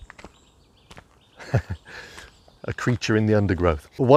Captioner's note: laughing